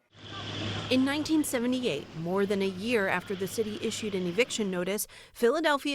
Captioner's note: voice-over